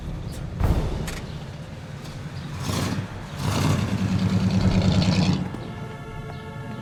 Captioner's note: engine cranking; tense music; engine purring